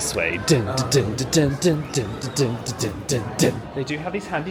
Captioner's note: hums spy music